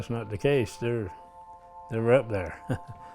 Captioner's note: laughs